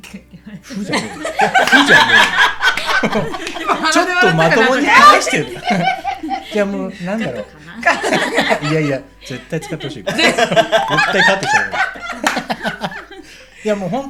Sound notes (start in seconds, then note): 0.9 laughs